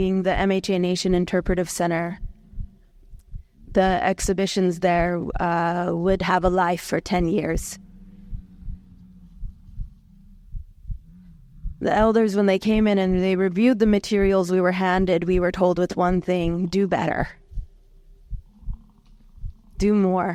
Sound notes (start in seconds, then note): 7.6 buffalo bellowing; 8.5 heart beating